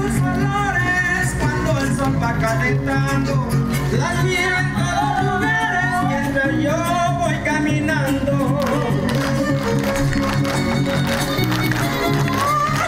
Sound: applause

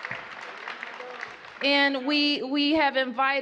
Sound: applause

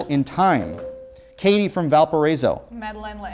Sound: beeping

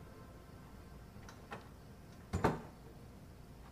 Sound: door opens and shuts

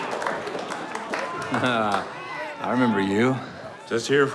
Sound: laughs

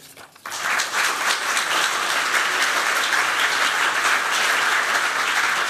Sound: applause

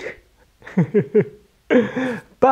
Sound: chuckles

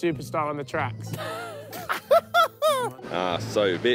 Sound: laughing

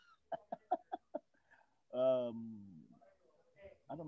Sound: laughing

